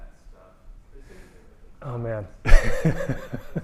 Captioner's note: laughter